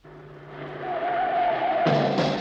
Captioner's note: car engine roaring; tires screeching; fast tempo jazz music